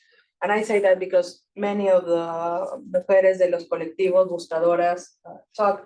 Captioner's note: speaking Spanish; speaking Spanish